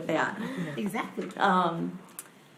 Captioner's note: laughs